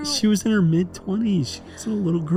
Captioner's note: humming